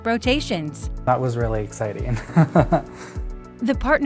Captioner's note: chuckles